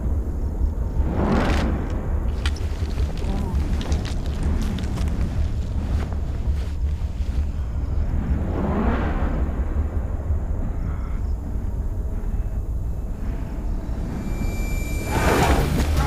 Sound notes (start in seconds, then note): 8.5 whooshing; 15.2 Naga groaning; 15.2 dramatic music